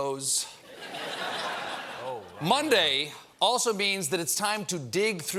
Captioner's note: laughter